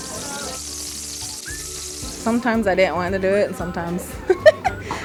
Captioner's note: grease sizzle